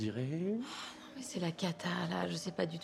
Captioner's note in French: soupir